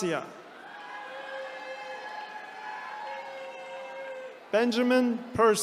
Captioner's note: attendees cheering